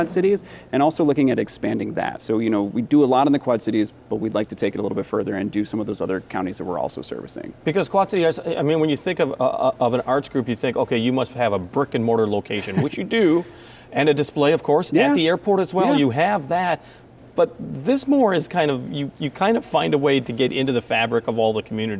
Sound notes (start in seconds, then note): 12.5 chuckling